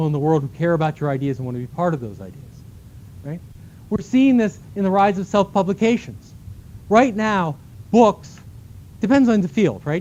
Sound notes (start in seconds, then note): none